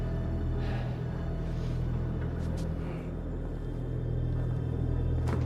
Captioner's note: Robert breathing heavily